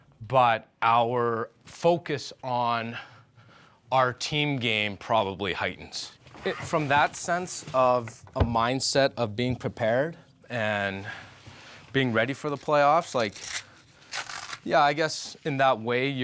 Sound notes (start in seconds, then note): 14.0 velcro snapping